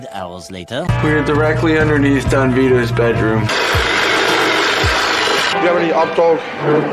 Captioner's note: saw vrrrooom